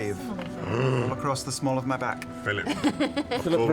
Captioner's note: gasps